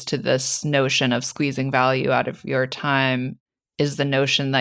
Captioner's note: none